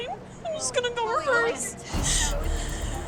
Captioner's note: Chloe crying